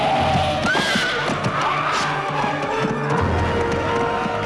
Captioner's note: horse neighs